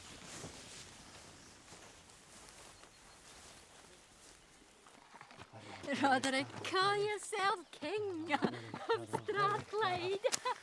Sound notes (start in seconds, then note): 8.3 laughs